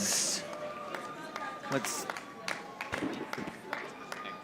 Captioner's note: audience applauding